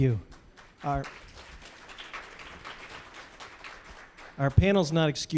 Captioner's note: applause